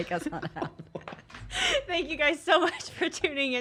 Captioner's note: laughs